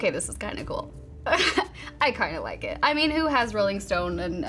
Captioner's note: chuckles